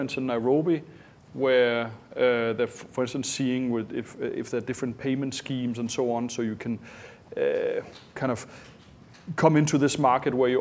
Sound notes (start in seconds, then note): none